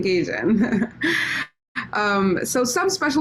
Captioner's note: chuckles